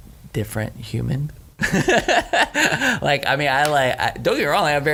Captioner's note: laughing